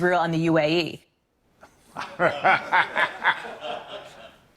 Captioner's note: laughter